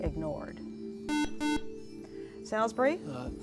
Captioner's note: buzzer